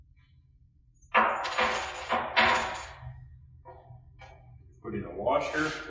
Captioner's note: metal clunking